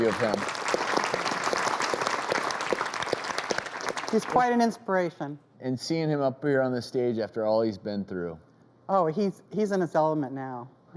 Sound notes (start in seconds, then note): 0.0 clapping